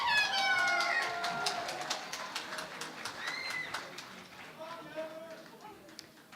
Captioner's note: cheering and Applause